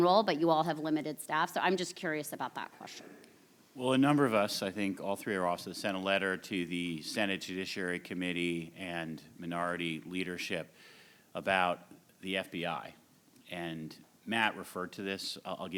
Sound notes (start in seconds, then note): none